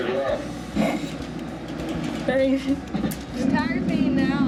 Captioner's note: laughing